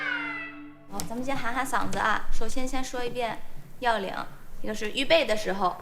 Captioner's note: speaking foreign language